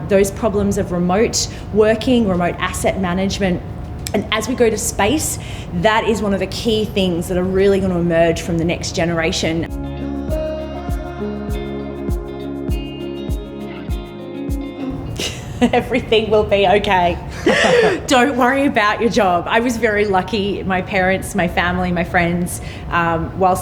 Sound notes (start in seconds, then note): 9.6 upbeat music; 17.2 laughs